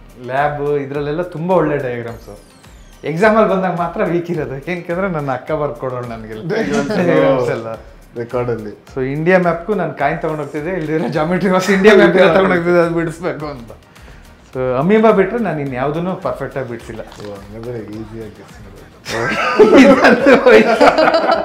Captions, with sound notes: Lab..idrallella tumba olle diagrams Exam ali bandaga matra weak irodu.. enikkandre nan akka barkodolu ella diagrams ella... record alli.. So India map gu nan coin tagond hogtidde ila andre geometry box India map irod tagond hogtidde, adu bidsbeku anta So..Amoeba bitre naa inyavdunnu perfect agi bidsilla (sarcastically)Oh hangandre easy agi guess madbodu (laughing) Idanthu hoithu!!